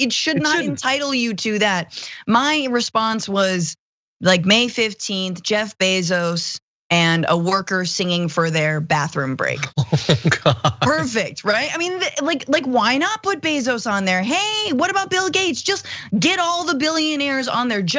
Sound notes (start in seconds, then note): 9.6 laugh